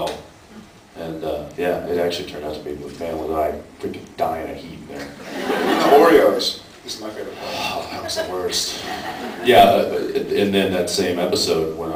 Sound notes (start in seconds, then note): 5.2 laughs; 7.4 sighs